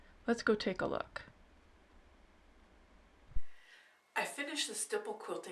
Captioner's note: silence